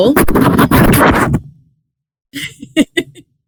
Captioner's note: noise ruffles; laughs